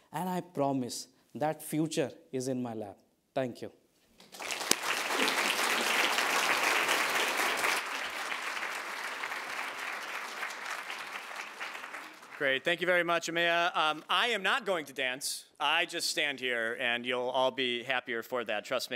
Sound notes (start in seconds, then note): 4.2 audience applauding